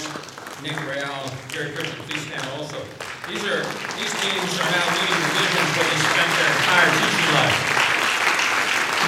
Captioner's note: applause